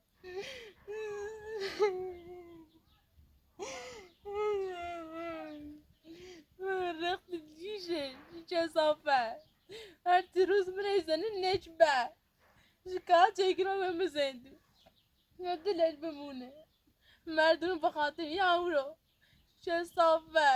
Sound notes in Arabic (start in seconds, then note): 3.6 بكاء